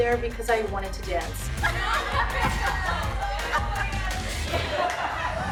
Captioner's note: laughter